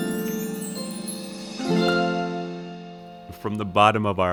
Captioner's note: chimes rings and music fades